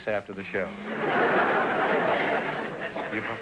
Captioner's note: audience laughter